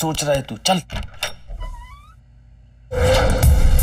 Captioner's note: Door opens